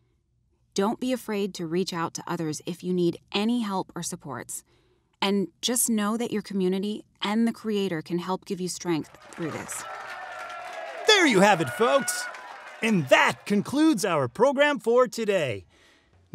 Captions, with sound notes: Don't be afraid to reach out to others if you need any help or supports. And just know that your community and the Creator can help give you strength through this. (audience cheering) - There you have it, folks! And that concludes our program for today.